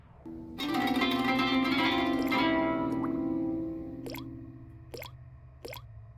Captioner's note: soft music; water dripping